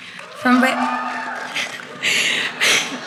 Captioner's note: applause